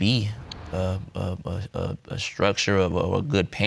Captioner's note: stutters